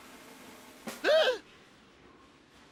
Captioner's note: gasps